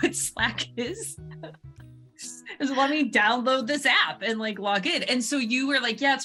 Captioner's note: chuckles